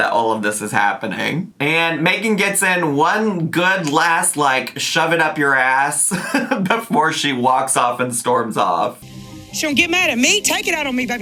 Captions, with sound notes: that all of this is happening, and Meghan gets in one, good, last, like, "shove it up your ass" (laughs) before she walks off, and storms off. - She gon' get mad at me, take it out on me?